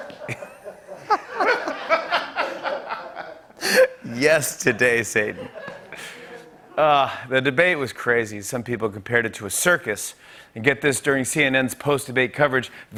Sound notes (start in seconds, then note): 0.0 laughs